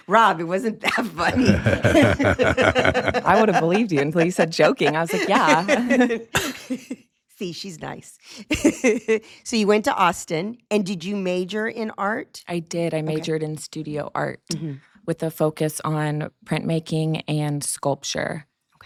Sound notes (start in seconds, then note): 1.0 laugh